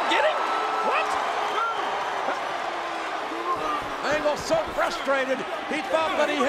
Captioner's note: applause